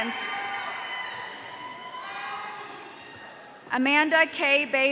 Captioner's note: audience cheering